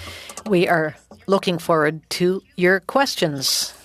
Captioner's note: speaking French